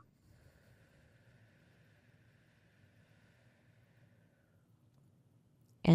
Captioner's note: exhaling